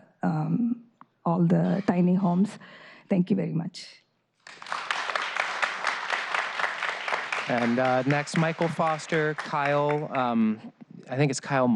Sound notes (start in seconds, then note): 7.0 applause